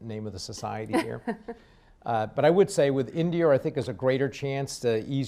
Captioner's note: laughs